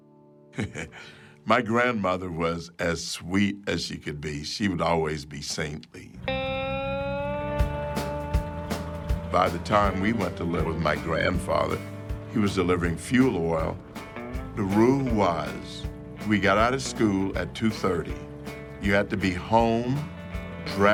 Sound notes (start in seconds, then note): 0.5 Clarence chuckles; 6.3 lively folk music